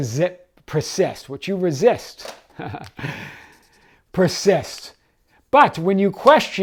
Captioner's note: chuckles